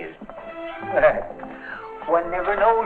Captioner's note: chuckles